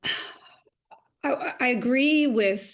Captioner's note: sighing